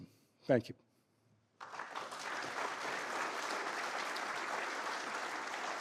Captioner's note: applause